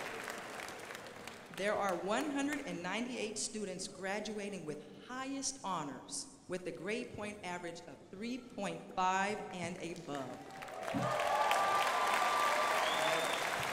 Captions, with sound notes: There are 198 students graduating with highest honors with the grade point average of 3.5 and above. (crowd applauding)